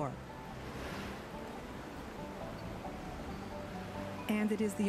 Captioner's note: waves rushing